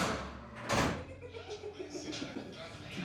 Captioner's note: chuckling